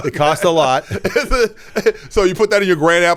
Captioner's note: laughs